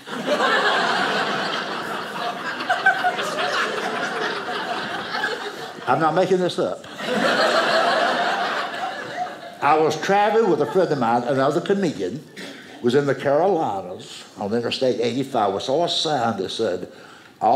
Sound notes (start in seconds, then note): 0.0 audience laughing